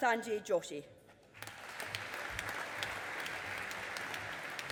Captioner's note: audience applauding